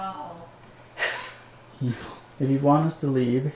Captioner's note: chuckling